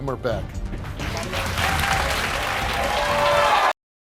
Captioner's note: crowd applauding